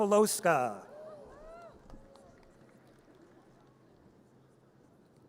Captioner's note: audience cheers